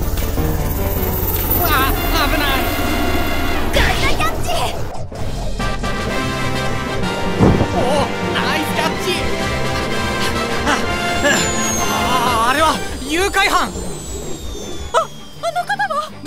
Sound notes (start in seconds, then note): 9.7 panting